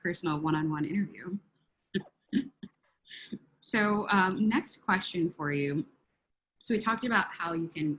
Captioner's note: laugh